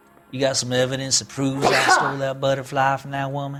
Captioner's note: sneezes